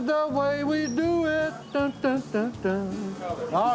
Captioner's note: humming